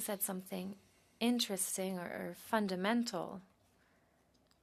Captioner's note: speaking French